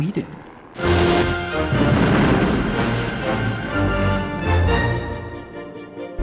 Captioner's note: dramatic music; bombs blasting